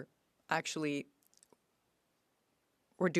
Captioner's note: speaking French